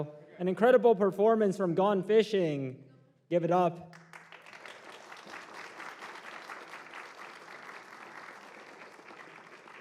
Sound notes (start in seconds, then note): 3.8 applause